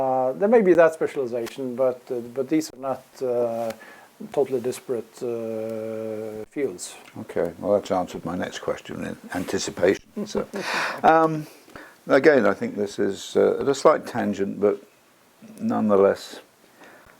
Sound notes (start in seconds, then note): 10.0 laugh